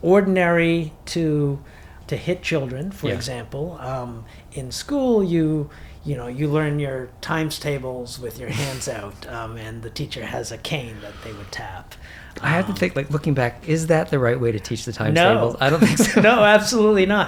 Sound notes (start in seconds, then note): 0.0 chuckles; 15.6 laughs